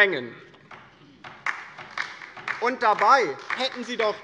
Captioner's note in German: Beifall bei der LINKEN